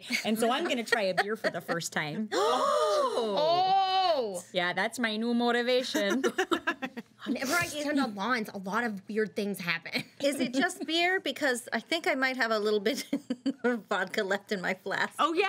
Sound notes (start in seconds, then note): 2.3 girls gasp